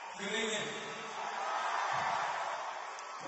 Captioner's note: cheering and applause